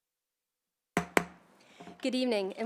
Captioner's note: gavel hitting dais